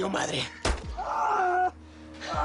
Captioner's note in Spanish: Disparo; Quejidos